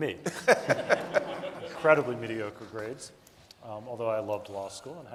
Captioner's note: audience laughing